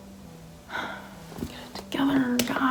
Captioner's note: sighs